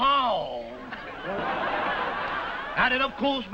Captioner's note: audience laughing